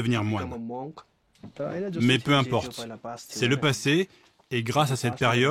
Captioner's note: dzongkha spoken audio